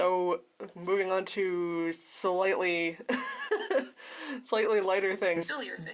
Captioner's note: laughter